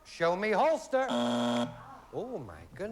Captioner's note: buzzer